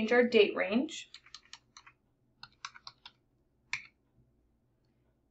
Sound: keyboard clattering

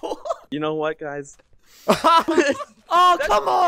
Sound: laughs; laughter

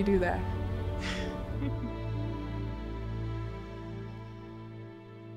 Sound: laughs softly

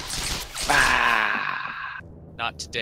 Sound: German Death Noises

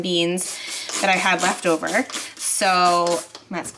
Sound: bottle squirting

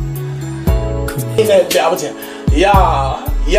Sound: out of breath

